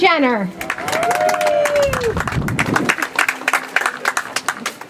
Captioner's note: audience applauds